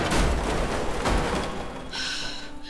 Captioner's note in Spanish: Estruendo